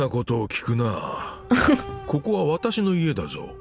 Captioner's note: chuckles